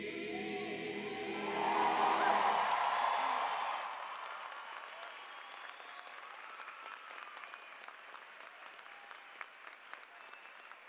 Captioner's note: applause